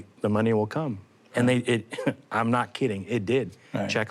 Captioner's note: chuckles